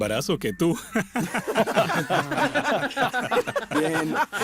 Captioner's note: risas